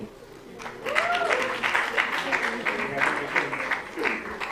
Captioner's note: applause